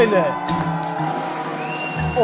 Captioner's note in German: Jubel, Applaus